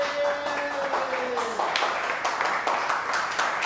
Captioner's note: cheering and applause